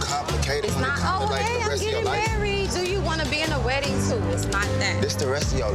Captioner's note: overlapping chatter